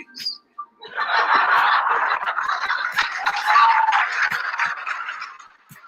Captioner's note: audience laughing and clappimg